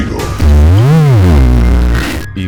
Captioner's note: weird Enthusiasm sound